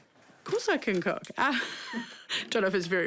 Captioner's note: chuckles